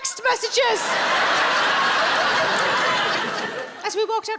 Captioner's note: audience laughing